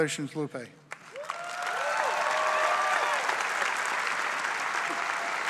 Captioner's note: audience applause